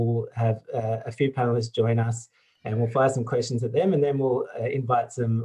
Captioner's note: clears throat